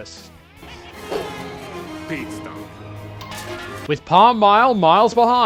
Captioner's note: blows